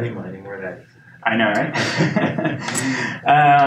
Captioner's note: laughs